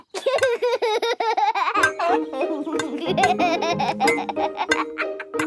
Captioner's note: laughs